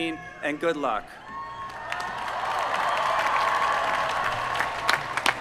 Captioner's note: applause